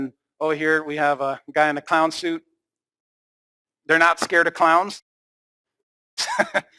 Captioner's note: laughs